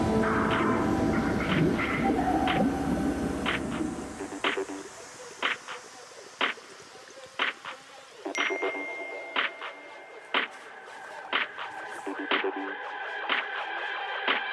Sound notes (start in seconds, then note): 2.5 sonar beeping; 8.3 cellphone dings loudly; 10.0 fast-paced music